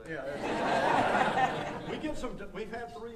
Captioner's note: audience laughing